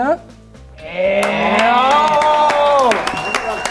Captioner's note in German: Jubel, Applaus